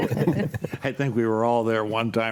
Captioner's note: group laughs